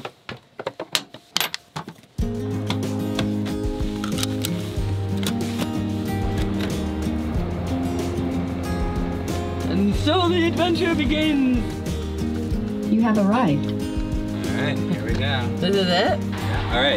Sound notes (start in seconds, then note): 2.7 lighthearted music; 3.9 seatbelt clicking; 7.0 car engine humming